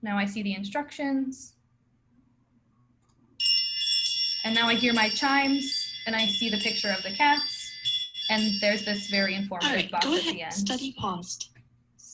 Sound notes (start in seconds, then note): 4.5 chimes sound effect